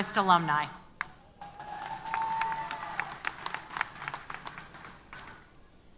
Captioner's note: applause & Cheers